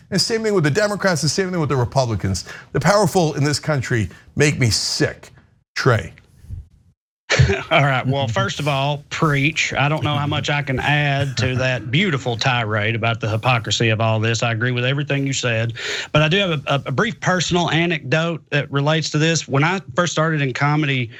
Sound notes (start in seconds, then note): 7.3 cough